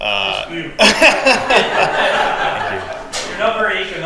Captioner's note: all laugh